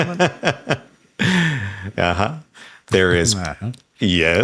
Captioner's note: laughs